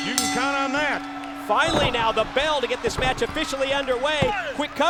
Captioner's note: bell ringing